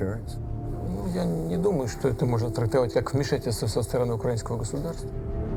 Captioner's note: speaking foreign language